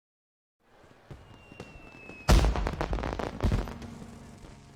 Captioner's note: hyururururu......Bang! Boooom!!